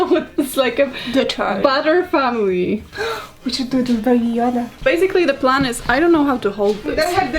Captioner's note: gasps